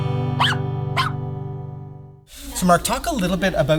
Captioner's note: guitar strumming; puppy barking